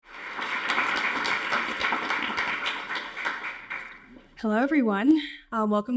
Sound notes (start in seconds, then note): 0.0 audience applauding